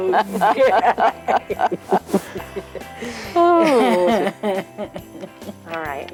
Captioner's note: laughing